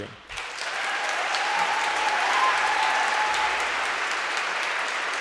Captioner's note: audience cheering and applauding